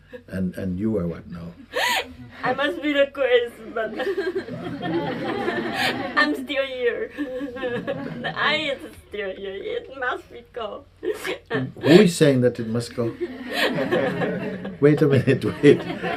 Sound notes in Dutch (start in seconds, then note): 6.6 huilend en lachend